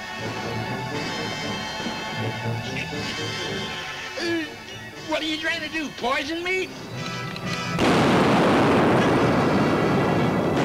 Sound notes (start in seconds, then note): 1.0 tense music; 7.7 safe booms; 9.8 exciting music; 9.8 guns bang